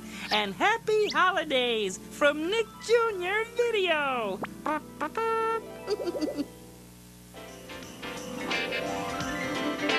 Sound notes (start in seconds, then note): 4.4 imitates bugle; 5.8 giggles